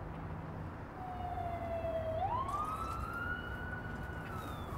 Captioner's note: sound of an ambulance siren in the distance